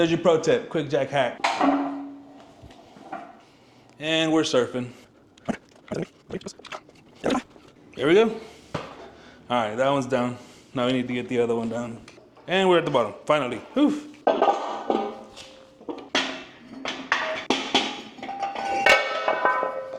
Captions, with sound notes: There's your pro tip, quick jack hack. And we're surfing. There we go. All right, that one's down. Now we need to get the other one down. And we're at the bottom, finally, oof. (metal clanging)